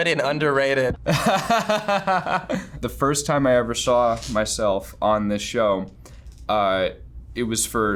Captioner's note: laughs